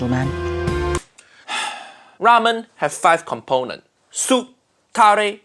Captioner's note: deep sigh